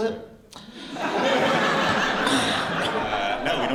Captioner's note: laughter